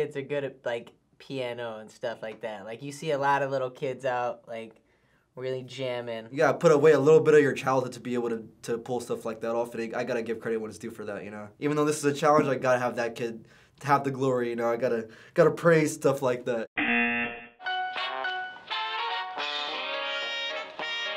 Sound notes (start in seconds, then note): 16.8 buzzer; 17.6 playful band music